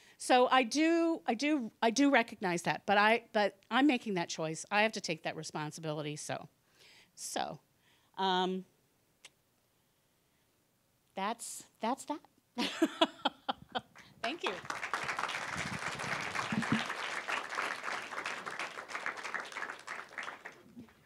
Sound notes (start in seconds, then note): 12.6 laughing; 15.6 applause